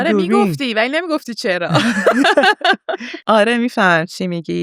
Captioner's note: laughs